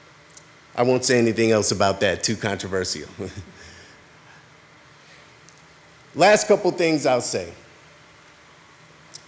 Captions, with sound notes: I won't say anything else about that. Too controversial. (laughs) Last couple of things I'll say.